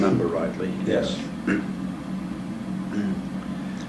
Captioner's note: cough